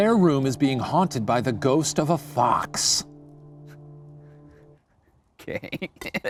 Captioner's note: giggles